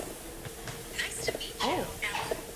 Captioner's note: app Voice